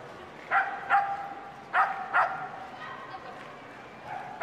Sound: dog barking

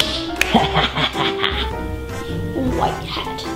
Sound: laughs

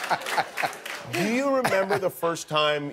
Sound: laughter

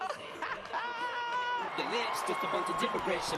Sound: laughs

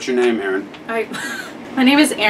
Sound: laughs

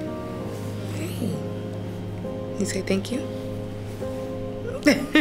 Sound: soft maternal laughter

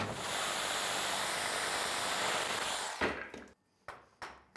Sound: power tool buzzing

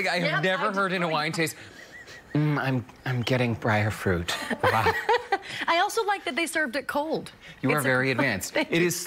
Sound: laughter

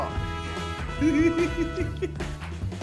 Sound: laughing

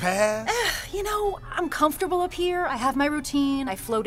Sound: sighs

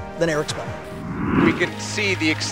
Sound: air whooshing

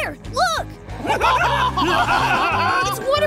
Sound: laughing

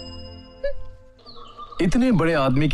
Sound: scoffs

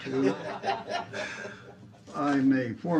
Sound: laughter

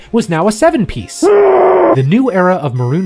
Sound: speaker groans

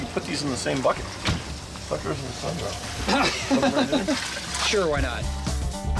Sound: laughing

